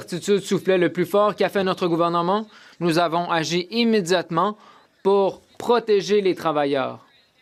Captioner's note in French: voix de l'interprète